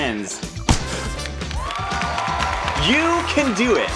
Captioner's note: confetti canons pop; crowd cheering